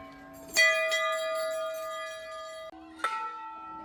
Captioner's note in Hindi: घंटी की आवाज़